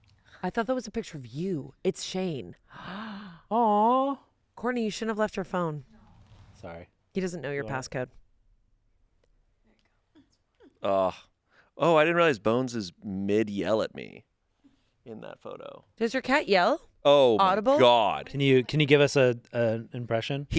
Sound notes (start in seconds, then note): 2.7 gasps